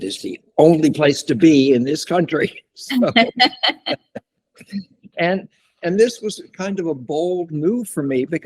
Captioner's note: laughter